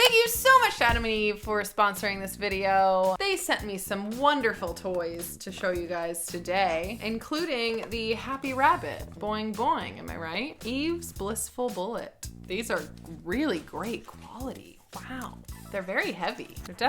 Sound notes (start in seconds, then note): none